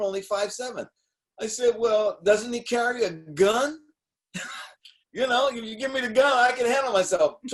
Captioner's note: laughing